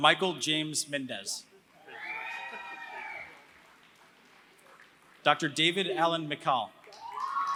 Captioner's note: applause